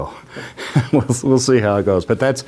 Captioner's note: laughs